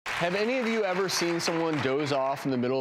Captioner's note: audience applauding